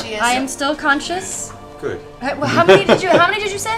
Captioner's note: laughs